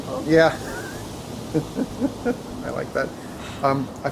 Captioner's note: laughs